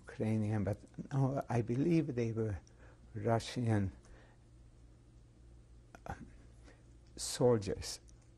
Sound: pauses for 3 seconds

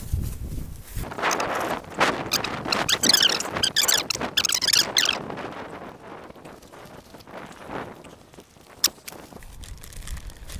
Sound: high pitched sounds of the film being sped up

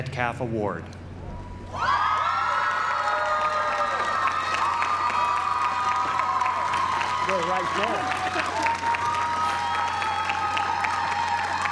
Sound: applause

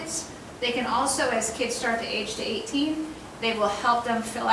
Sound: none

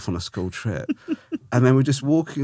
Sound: laughing

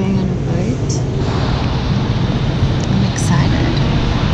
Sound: air whooshing

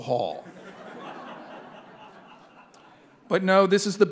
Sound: audience laughing

